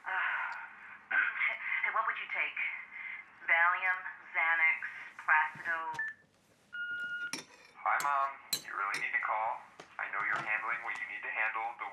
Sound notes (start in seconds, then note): 6.8 machine beeping